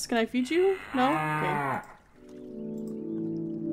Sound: cow moos

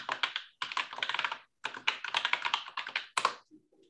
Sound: keyboard clattering

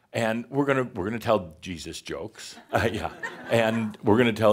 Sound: a few chuckles

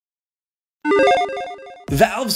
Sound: digital chiming

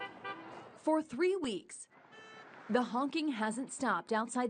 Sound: nats honking

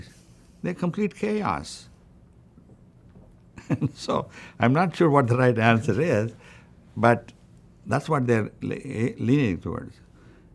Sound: laughs

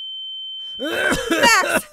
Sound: Arren coughing

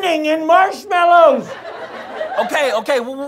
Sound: audience laughter

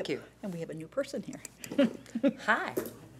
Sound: chuckling

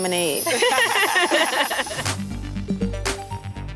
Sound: all laugh; upbeat electronic music

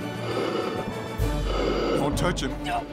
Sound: growling

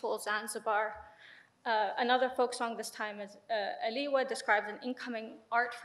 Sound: speaks in foreign language

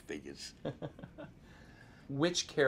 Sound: interviewer chuckles

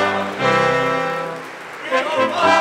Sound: audience applauding

